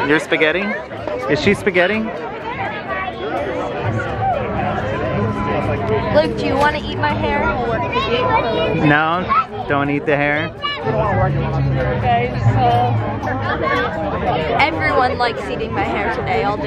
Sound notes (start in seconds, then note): 11.8 people chattering